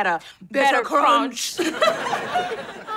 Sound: laughing

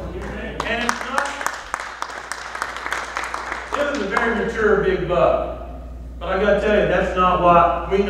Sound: clapping

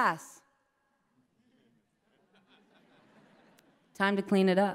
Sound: laughter

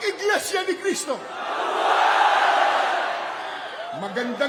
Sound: crowd chants: "Long live!"

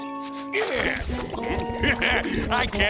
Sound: chuckles

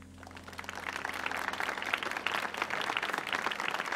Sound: audience applauding

